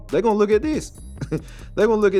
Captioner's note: chuckles